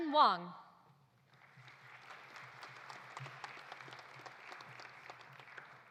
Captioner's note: audience applauding